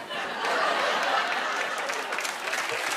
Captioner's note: cheers and applause